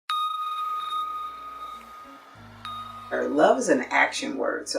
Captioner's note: bell chime